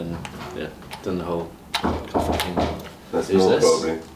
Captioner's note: knock on door